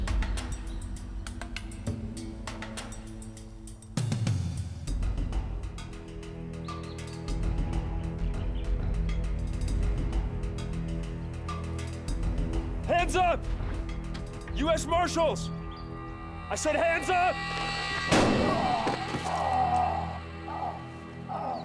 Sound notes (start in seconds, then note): 18.1 gunshot, groans; 20.2 groaning